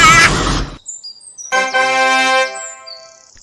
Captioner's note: triumph sound